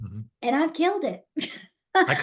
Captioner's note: laughs